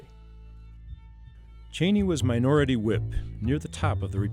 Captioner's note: voiceover